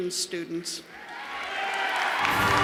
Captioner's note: cheers and applause